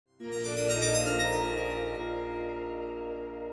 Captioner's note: start up sound